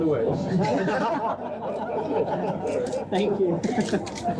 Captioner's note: photographers laugh